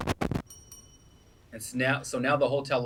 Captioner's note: mic static fizzing; bell ringing